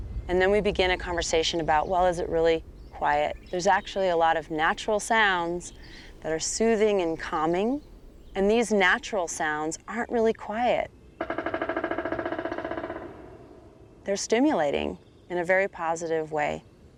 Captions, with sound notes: and then we begin a conversation about well, is it really quiet? There's actually a lot of natural sounds that are soothing and calming and these natural sounds aren't really quiet. [woodpecker's loud drumming echoing in the distance] They're stimulating, in a very positive way.